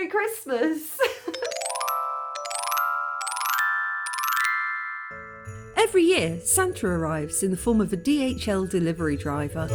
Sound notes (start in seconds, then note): 5.8 fairy chimes